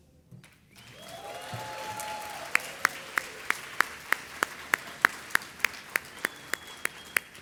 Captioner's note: audience applauding; audience cheering